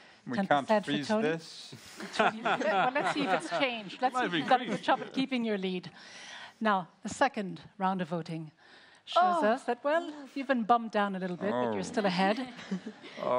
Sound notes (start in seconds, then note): 2.0 laughs